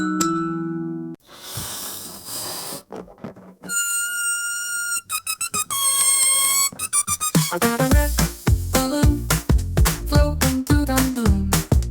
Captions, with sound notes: [Sounds from a balloon] I got a red balloon. Floating to the moon.